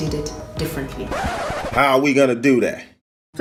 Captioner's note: record scratching